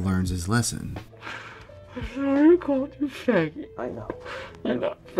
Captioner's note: sobbing